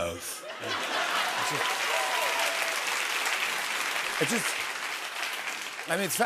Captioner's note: cheers and applause